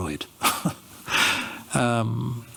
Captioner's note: laughs